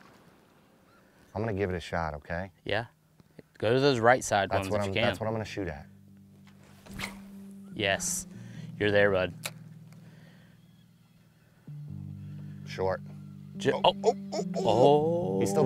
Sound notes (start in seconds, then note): 6.6 line swishing